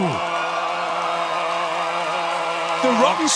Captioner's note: crowd cheering